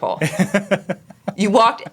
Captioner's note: laughing